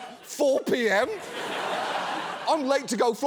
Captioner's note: audience laughs